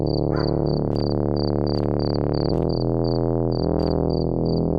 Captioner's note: footsteps